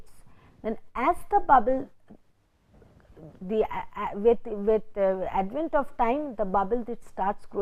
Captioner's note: vocalized noise